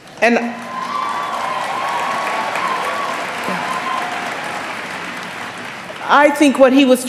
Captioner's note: applause